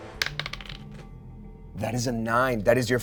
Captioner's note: die rolls